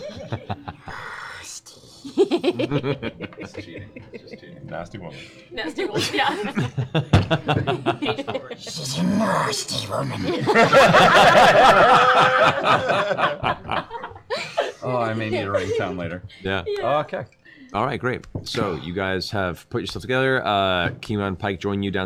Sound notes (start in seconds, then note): 1.4 Gollum voice; 6.1 Gollum voice; 10.2 laughter